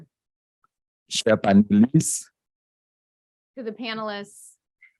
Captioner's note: speaking a foreign language